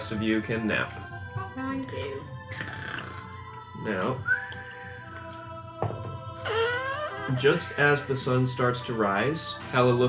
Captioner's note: snoring